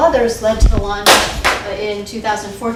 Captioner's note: banging drowns out speaker